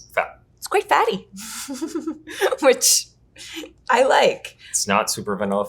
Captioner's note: chuckles